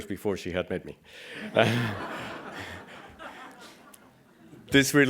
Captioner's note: laughing